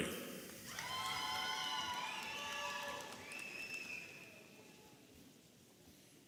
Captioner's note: audience applauding and cheering